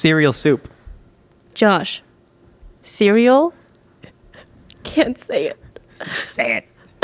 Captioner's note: laughs